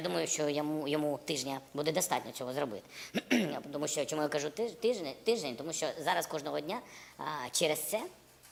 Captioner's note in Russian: откашливается